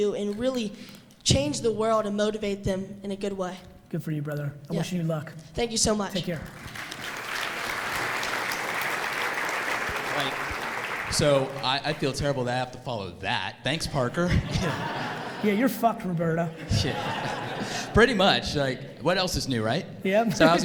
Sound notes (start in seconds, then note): 6.2 audience applauds; 13.9 audience laughs